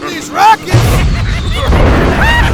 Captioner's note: explosion; whistle